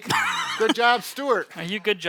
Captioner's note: laughs